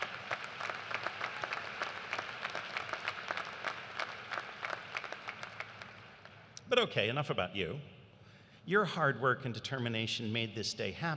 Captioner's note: applause